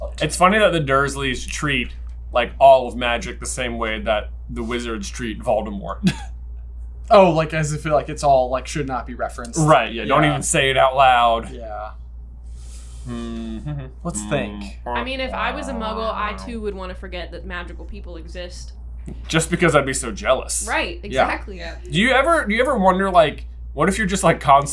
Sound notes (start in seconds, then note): 13.4 hums HP theme